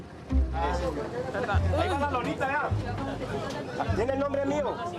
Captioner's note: Spanish spoken audio